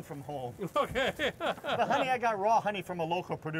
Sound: laughter

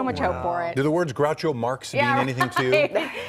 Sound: laughter

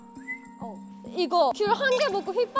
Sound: whistling

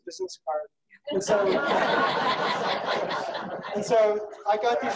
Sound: laughing

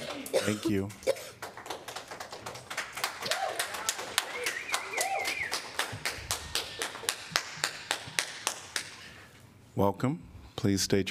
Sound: applause

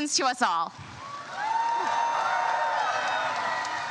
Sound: crowd cheers

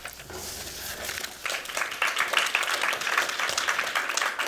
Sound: applause

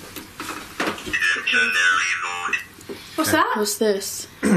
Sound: voice from Ovilus

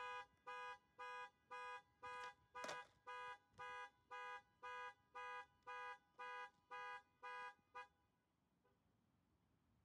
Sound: car horn beeps

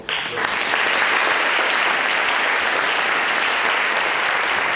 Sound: applause

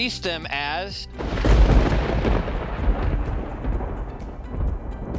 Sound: thunderclap

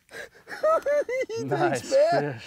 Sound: giggling

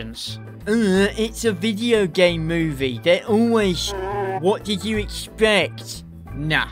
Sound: whiny voice

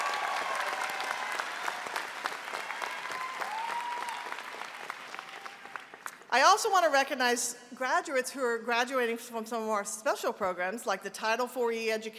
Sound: applause

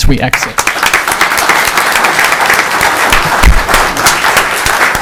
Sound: people applauding

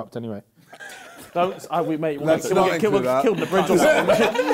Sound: both mumbling

